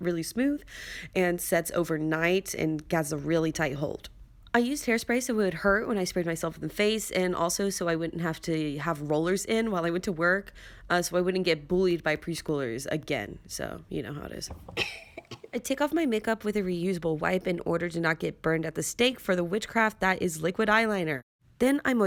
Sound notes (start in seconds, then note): 14.6 cough